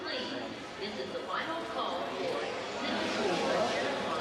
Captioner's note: background chatter